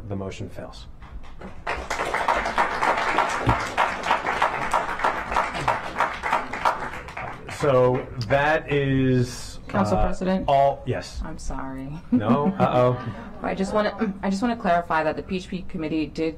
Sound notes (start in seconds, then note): 5.8 applause